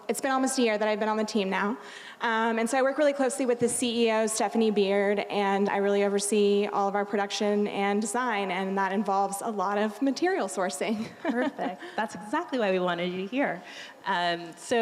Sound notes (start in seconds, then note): 11.0 laughing